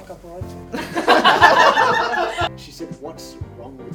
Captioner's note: more laughter